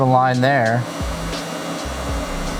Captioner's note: buzzing